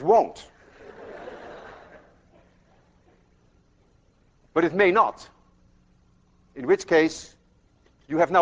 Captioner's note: class laughs